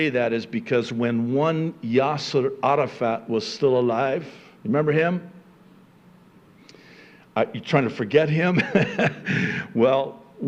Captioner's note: chuckling